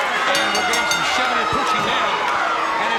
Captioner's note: bell rings